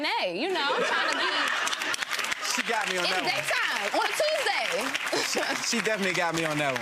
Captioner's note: gallery laughs